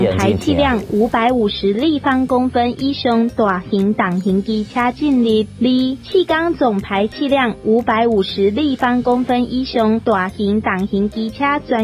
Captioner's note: speaking Taiwan dialect